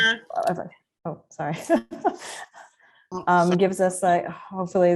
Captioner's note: chuckles